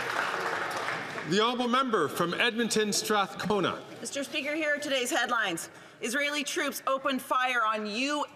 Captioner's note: some Applause